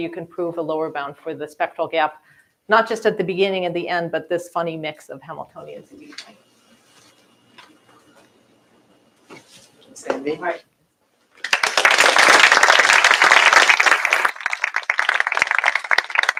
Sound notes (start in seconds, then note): 11.4 applause